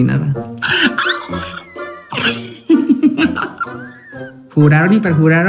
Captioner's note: excited drag laugh